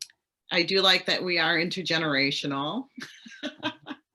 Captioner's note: laughs